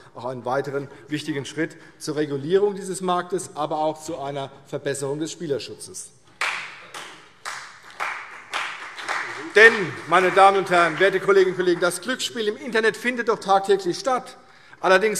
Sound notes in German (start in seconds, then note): 6.4 Beifall CDU und BÜNDNIS 90/DIE GRÜNEN